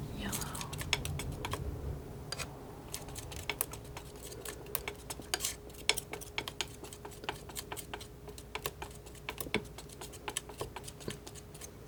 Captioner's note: tapping